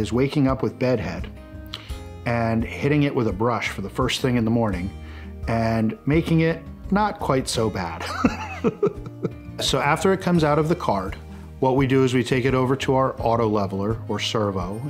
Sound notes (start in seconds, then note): 8.1 laughs